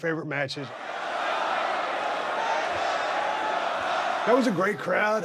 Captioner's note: crowd cheering